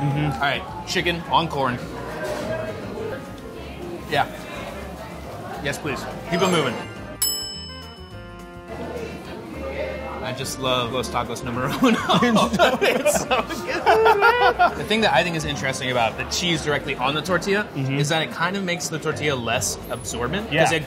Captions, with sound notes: - Mm-hm. - All right, chicken on corn. Yeah, yes please, keep 'em moving. [bell dings] I just love Los Tacos Numero Uno. [laughing] - It's so good man! - It's just so good! The thing I think is interesting about the cheese directly on the tortilla is that it kinda makes the tortilla less absorbent